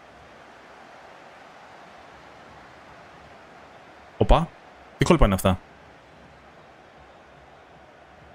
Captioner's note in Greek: χειροκρότημα